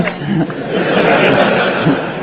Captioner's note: crowd laughs